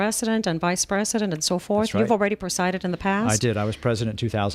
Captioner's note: Hablando ingl\s